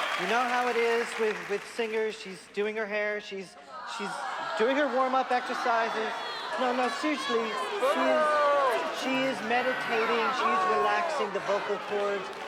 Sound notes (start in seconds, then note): 3.6 crowding booing; 7.6 booing